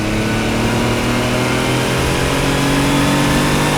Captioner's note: engine revving